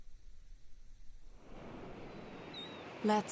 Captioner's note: ocean waves and seagulls